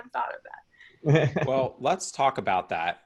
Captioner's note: laughs